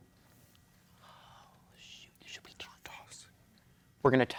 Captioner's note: whispering